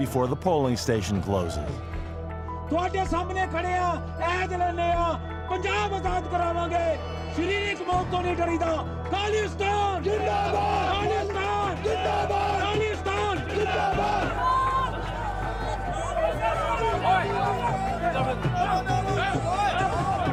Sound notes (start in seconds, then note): 2.5 speaking Punjabi; 10.0 all chanting in Punjabi; 14.3 crowd clamouring; 18.1 drums beating